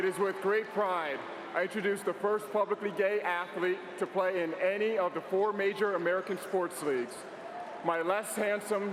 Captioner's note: applause